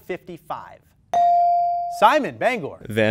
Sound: ding

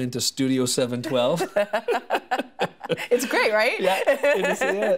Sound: laughing

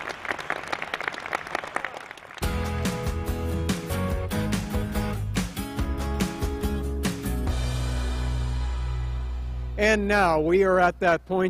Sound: applause

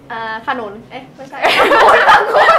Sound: laughing

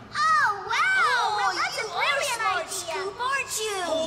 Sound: none

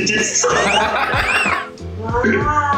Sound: laughs

